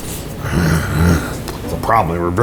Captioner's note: grumbles